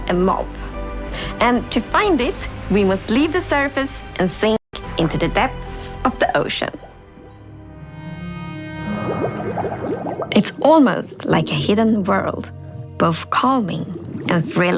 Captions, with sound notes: I've already hinted that the new drop includes a mob, and to find it, we must leave the surface and sink into the depths of the ocean. [Bubbling] It's almost like a hidden world,